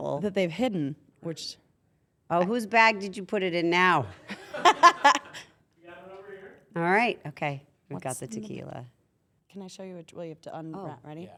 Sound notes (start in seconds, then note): 4.3 laugh